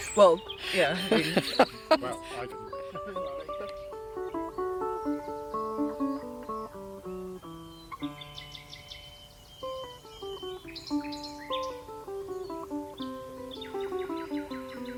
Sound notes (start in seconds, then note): 0.6 laughing; 9.7 birds chirping